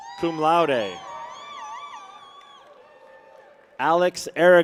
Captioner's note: people cheer